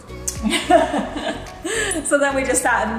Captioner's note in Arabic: أمي تضحك